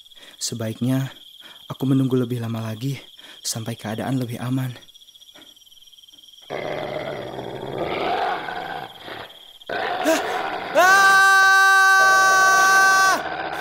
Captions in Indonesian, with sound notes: Sebaiknya aku menunggu lama lagi sampai keadaan lebih aman. *suara serigala* Aaaaaaa!!!